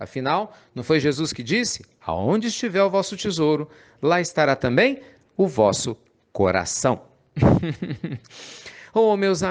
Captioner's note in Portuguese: Risos